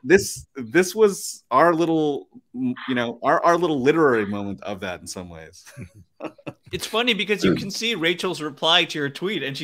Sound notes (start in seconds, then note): 5.6 laughs